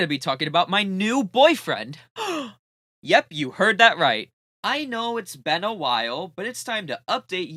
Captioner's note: gasp